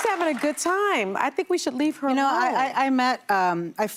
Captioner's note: applause